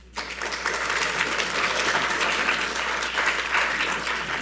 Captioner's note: audience applauds